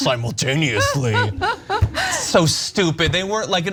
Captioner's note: laugh